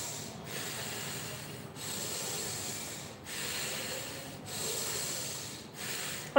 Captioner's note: breathing…